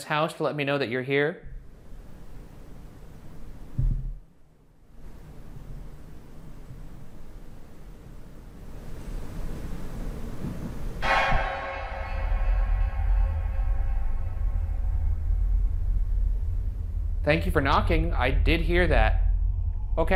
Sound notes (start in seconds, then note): 10.4 bump; 11.0 dramatic music